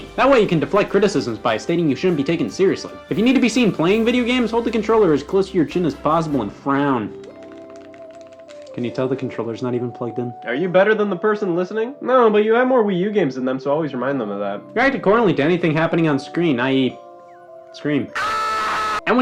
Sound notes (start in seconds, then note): 7.2 controller clicking; 18.1 screams